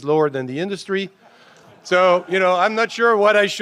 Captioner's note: laughter